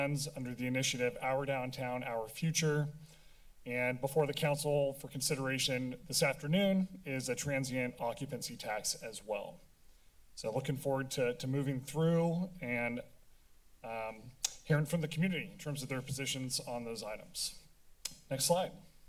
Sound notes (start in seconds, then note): 14.4 tongue clicking; 18.0 tongue clicking